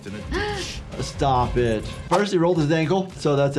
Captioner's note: gasping